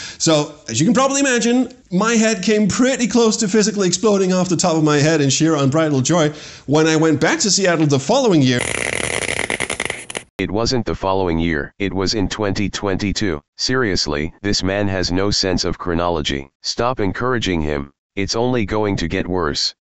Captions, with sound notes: So, as you can probably imagine, my head came pretty close to physically exploding off the top of my head in sheer unbridled joy when I went back to Seattle the following year... [DISTORTED CRACKLING] [ROBOT VOICE] It wasn’t the following year. [ROBOT VOICE] It was in 2022. [ROBOT VOICE] Seriously... [ROBOT VOICE] This man has no sense of chronology. [ROBOT VOICE] Stop encouraging him. [ROBOT VOICE] It’s only going to get worse.